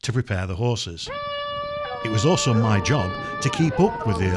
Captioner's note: hunting horn